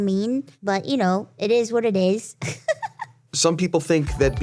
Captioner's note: laughs